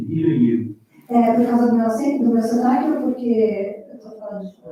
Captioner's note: foreign language